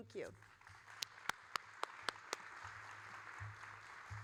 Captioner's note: all applauding